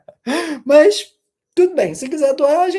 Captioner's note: sighing; laughter